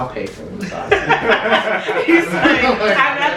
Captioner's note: laughter